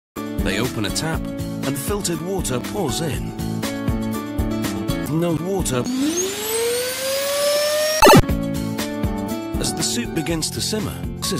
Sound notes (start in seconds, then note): 5.9 vacuum sucking sound; 8.0 schloomp